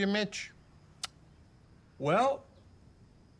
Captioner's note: clicks tongue